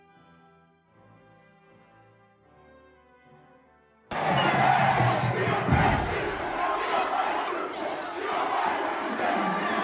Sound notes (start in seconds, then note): 0.2 celebratory music; 4.1 crowd cheering